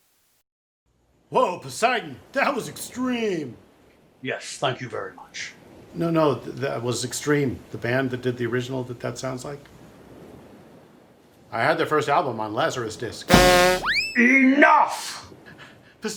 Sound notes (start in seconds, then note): 13.3 clown horn; 13.3 slide whistle